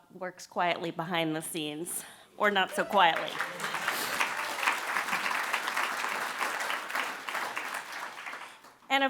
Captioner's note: applause